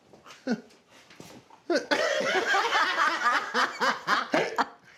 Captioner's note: laugh